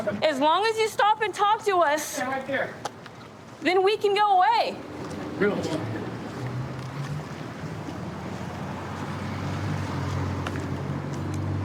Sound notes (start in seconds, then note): 8.3 vehicles driving